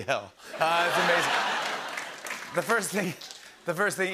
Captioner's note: laughter